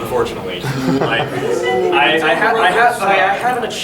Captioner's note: audience gasps